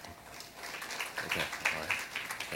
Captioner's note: applause